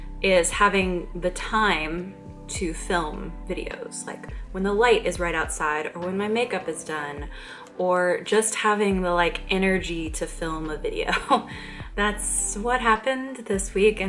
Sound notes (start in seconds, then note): 11.2 chuckle